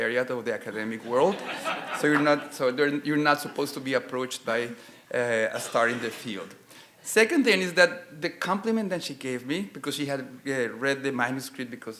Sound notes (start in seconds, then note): 0.9 audience laughing